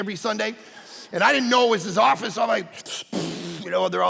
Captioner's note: puffing